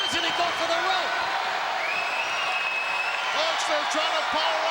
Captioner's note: crowd yelling